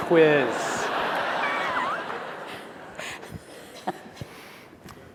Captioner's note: laughter